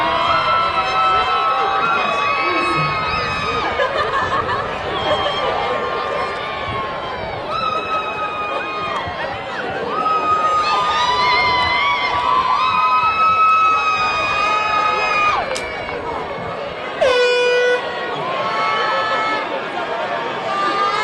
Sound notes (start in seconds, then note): 0.1 crowd cheering; 10.2 crowd cheering; 17.0 horn tooting